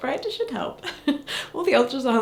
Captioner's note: chuckles